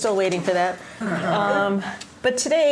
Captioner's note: laughter